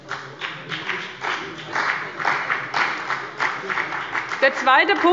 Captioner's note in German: Beifall bei dem BÜNDNIS 90/DIE GRÜNEN und der CDU